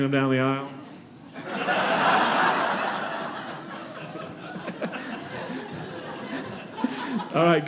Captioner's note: audience laughing